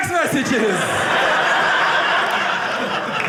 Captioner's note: audience laughing